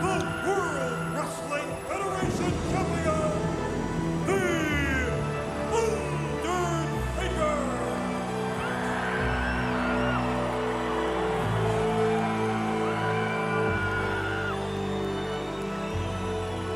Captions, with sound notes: the World Wrestling Federation Champion, the Undertaker. (eerie organ music) (audience screaming)